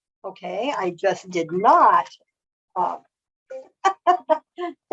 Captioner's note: laughs